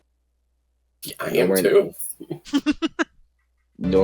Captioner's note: chuckles